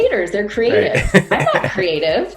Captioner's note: laughing